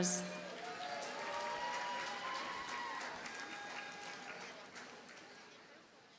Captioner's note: audience cheers and applauds